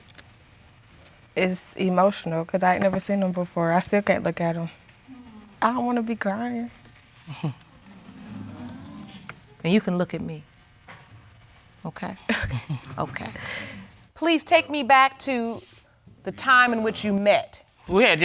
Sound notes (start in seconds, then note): 7.9 audience exclaiming; 12.3 chuckles